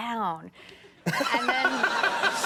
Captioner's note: laughing